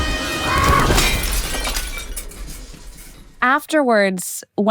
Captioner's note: birds squawking; ominous music; glass shatters